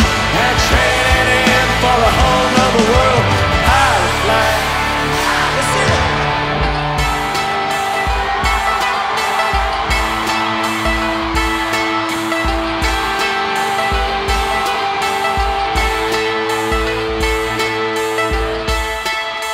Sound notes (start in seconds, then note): 4.8 crowd; 9.5 crowd cheers; 15.0 laid back country music continues